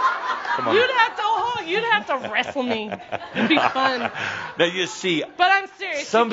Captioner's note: more chuckles